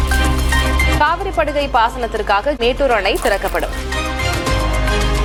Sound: breaking news being read on TV

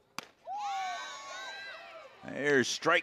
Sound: crowd cheering

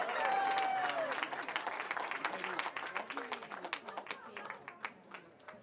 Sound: foreign language; cheering

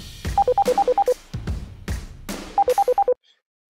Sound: phone ringing

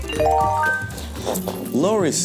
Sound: phone chiming

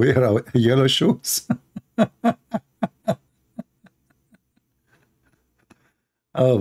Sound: Ketawa

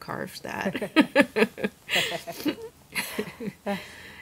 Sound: laughs

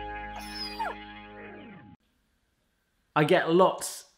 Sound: whine

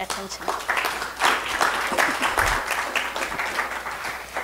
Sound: applause

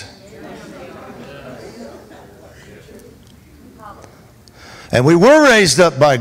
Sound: congregation chattering

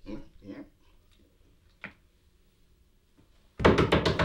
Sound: door knocks

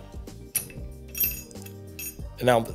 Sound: bolt clanging

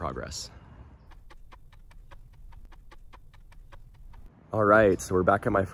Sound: ticking Clock Noise

